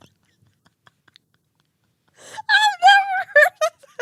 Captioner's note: laughing